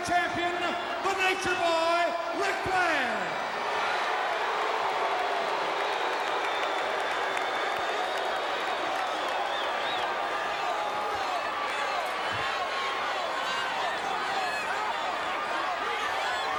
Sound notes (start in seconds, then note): 3.9 crowd cheering